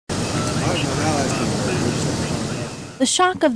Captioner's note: ambient noise and radio chatter